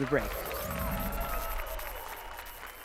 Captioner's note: applause and cheers